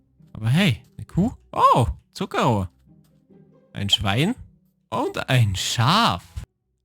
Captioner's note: speaking in foreign language